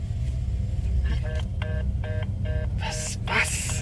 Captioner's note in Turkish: çağrı kesildi